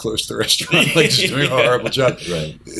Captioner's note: laughter